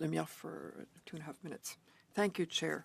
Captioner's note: speaking French